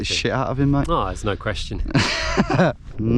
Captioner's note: laughs